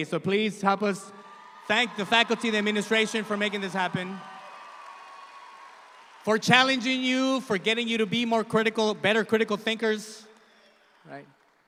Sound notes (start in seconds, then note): 4.9 audience applauding